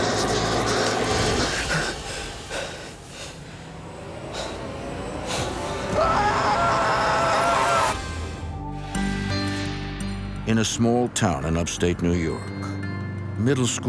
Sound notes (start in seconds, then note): 5.6 screaming